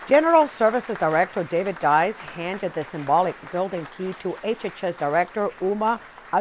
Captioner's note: applause